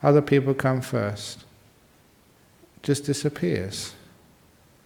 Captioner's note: none